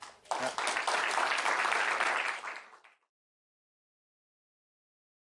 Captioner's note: applause